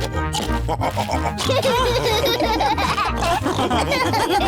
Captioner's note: laugh and snorts; all laughing